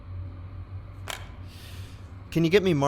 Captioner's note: sound of intercom receiver